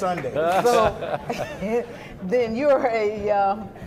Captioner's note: laughing